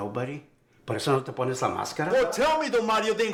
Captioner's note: Spanish